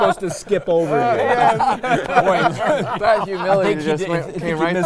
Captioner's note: all laughing